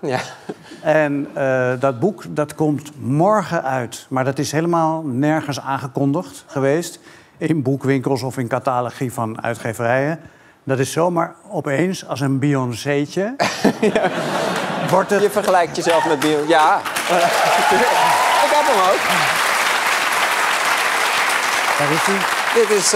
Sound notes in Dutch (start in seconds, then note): 13.4 gelach; 17.3 applaus en gejuich